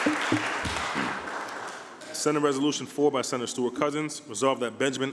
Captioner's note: applause